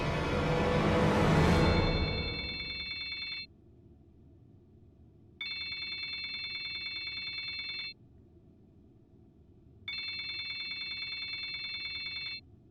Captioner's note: phone rings